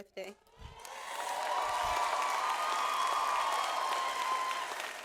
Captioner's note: audience applauds